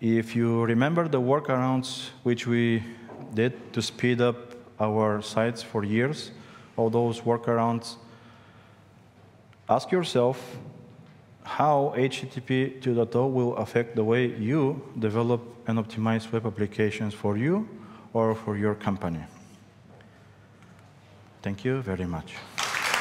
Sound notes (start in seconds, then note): 22.4 applause